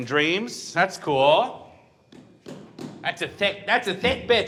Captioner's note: hand tapping